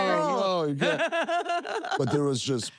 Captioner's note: laugh